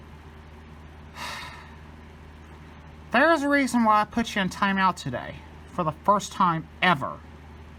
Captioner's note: sighs